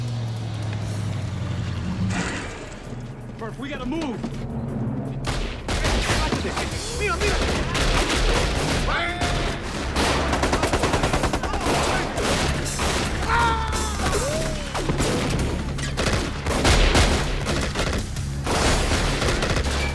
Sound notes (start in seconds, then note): 0.1 tense music; 5.6 gunshots cracking; 5.6 people shouting in Spanish; 10.3 gunfire rattling; 13.2 soldier screams; 16.8 gunfire cracking